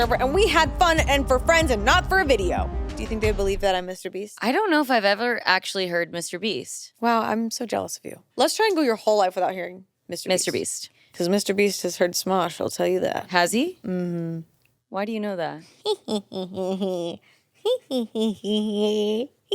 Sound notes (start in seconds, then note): 15.6 giggles